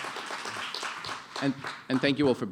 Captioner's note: applause